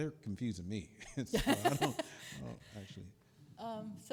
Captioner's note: chuckles